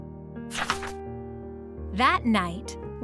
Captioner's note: paper crinkling